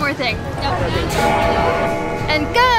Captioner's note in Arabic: رنين الجرس